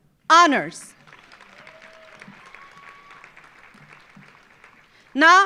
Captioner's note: audience applauding